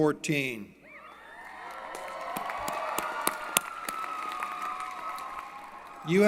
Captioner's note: applause & Cheering